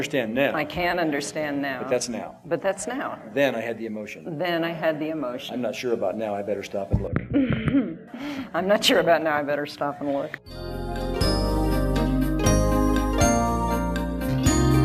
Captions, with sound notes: - I can understand now. - I can understand now. - But that's now. - But that's now. - Then I had the emotion. - Then I had the emotion. - I'm not sure about now, I'd better stop and look. (laughter) - I'm not sure about now, I better stop and look. (relaxing electronic music)